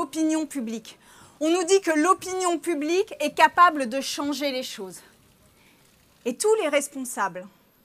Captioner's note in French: none